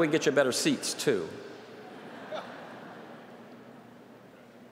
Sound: laughter

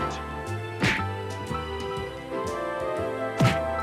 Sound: smack; smacking

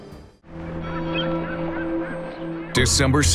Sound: seagulls caw

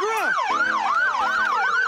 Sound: siren

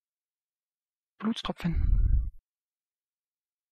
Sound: fast Pronunciation

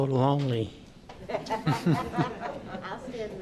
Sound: laughter

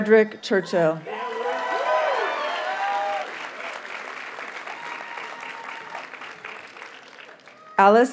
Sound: audience cheers and applauds

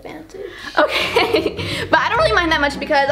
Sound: laughs

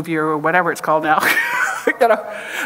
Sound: chuckles

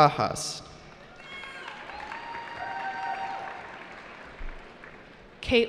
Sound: cheering

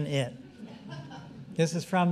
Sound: audience laughing

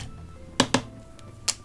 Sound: tap, tap

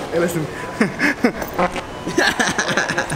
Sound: laughing; fart; chuckling; laughing

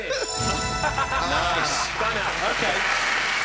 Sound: cheering

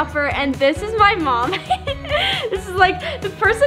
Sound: laughs

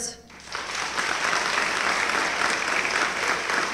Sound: applause

